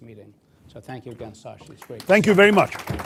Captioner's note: applause